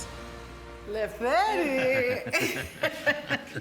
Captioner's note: both laugh